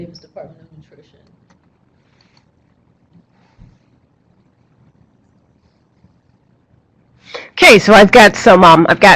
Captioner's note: silence, typing